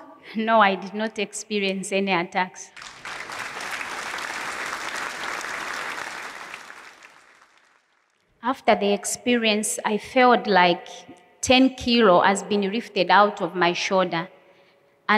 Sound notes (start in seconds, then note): 2.7 applause